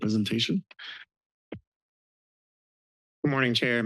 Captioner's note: silence